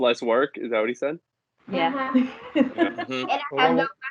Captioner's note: laughter